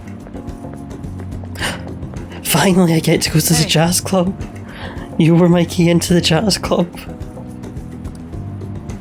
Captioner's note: gasp